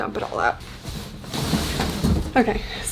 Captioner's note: box rustling